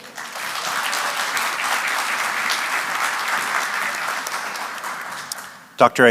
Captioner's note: applause